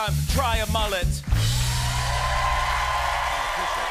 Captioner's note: cheers and applause